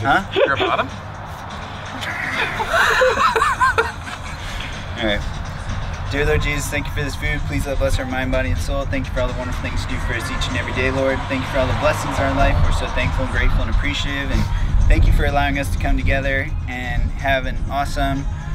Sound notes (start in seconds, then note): 1.8 laughs